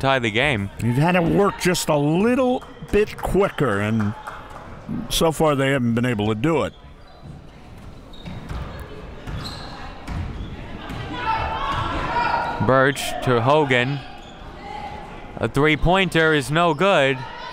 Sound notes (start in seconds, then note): 7.6 crowd murmuring